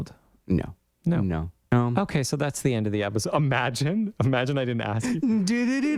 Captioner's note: laugh